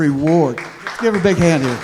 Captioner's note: applause